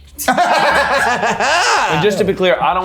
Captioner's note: everyone laughing